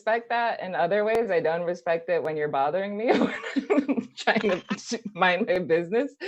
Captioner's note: laughs